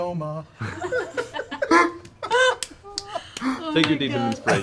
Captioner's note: laughter